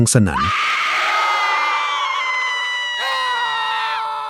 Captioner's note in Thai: เสียงกรีดร้อง